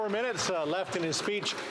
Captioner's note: some Applause